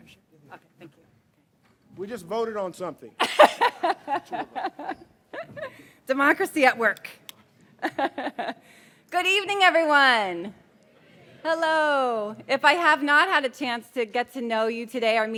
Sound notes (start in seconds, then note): 3.2 laughs